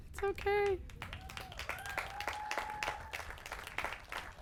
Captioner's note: applause